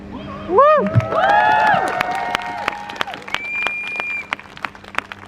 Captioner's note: crowd cheers